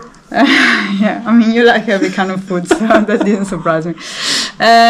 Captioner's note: laughing